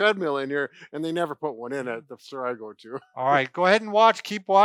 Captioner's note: laughing